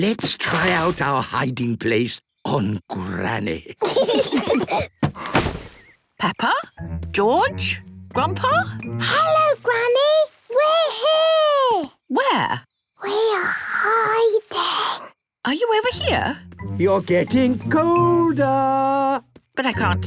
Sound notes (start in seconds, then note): 3.7 laughter; 9.2 Peppa whispering